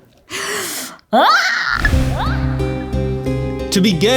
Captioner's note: screeches